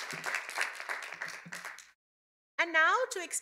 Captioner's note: cheers and applause